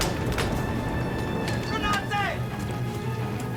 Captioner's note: shouting in German